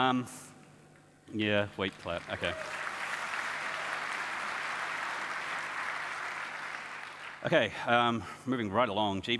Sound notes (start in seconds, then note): 1.8 audience applauds